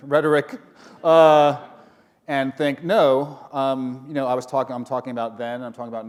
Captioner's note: chuckle